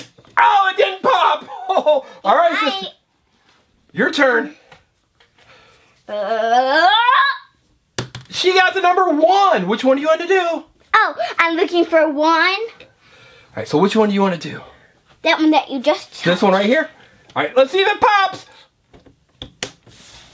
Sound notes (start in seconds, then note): 3.1 voiceover; 6.4 yelling; 11.4 voiceover